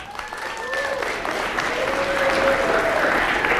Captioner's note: applause